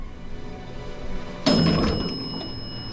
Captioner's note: ding!